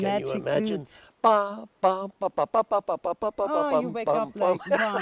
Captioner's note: humming <i>